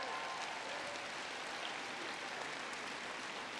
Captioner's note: applause